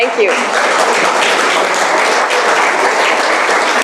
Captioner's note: applause